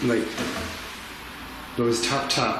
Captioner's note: tapping